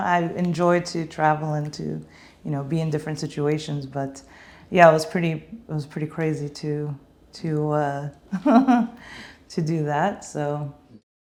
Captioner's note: laughing